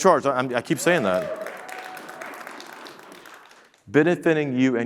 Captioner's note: audience clapping